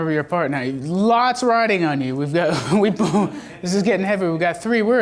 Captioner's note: laughs